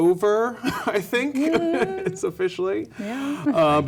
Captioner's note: nervous laugh